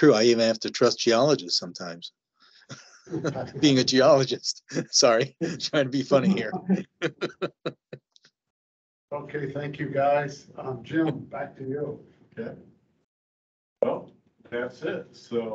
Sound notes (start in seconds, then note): 6.6 laughing